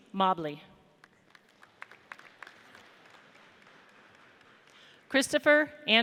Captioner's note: audience applauds